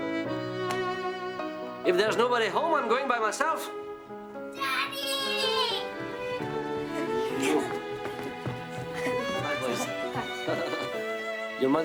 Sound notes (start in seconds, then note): 6.9 lips smooching; 10.5 laughs